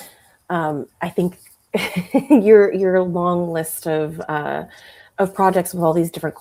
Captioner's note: chuckles